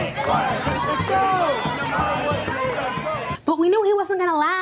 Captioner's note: team shouting encouragement